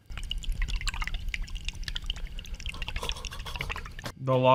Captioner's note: liquid sauce shaking sound